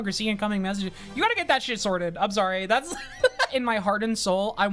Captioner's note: laughs